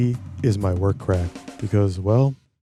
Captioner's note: none